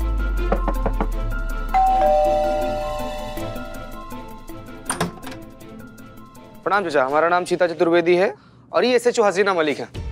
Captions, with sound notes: [knocking on door] [doorbell ringing] [door opening] Greetings. I am Cheetah Chaturvedi, and she's SHO Haseena Malik.